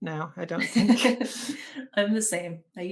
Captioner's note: women laughing